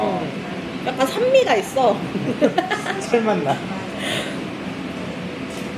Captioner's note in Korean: ㅋㅋ